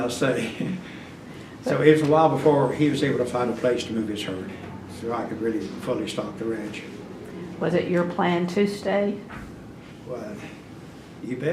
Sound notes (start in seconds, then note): 0.6 laughs